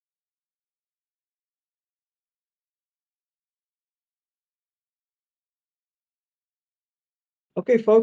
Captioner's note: silence